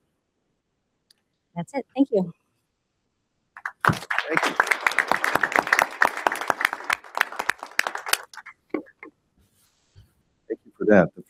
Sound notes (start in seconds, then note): 3.6 audience applauding